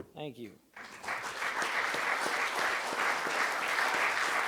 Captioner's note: applause